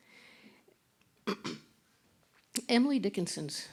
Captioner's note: clears throat